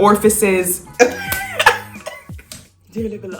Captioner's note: laughs